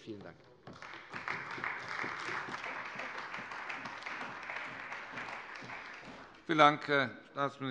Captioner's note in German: Beifall bei der CDU und dem BÜNDNIS 90/DIE GRÜNEN